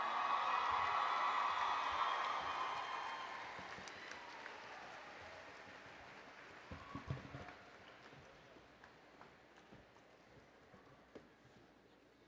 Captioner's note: applause and Cheering